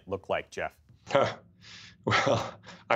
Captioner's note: laughter